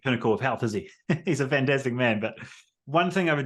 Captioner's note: laughs